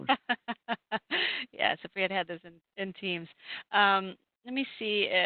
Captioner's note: laughs